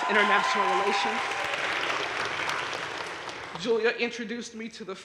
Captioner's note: audience cheering and applauding